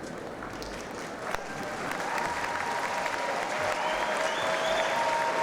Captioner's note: audience applauds